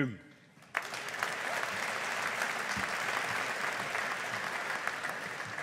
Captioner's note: audience applauding